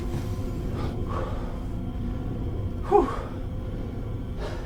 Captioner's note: Jack deeply exhales